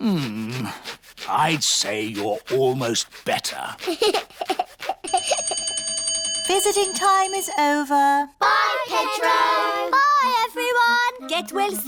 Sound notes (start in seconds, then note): 3.8 giggles; 5.1 bell rings